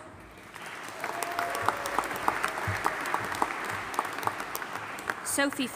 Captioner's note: audience applauding and cheering